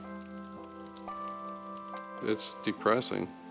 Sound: fire Crackling

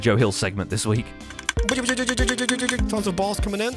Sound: mimicking dispenser noises; dispenser noises

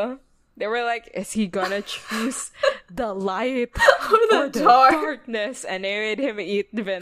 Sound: dramatically

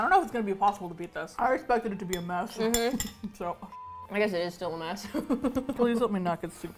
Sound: laughs

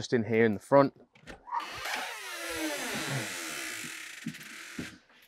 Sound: door creaking

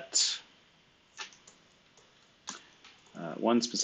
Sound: computer keyboard clicking

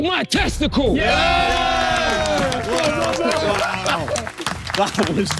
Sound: everyone cheering

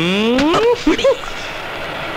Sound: chuckles

